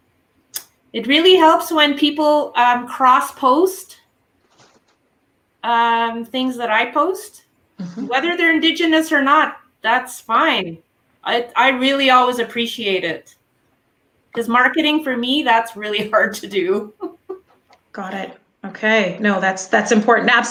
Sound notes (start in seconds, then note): 16.7 laughing